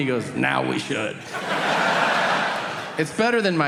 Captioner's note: audience laughing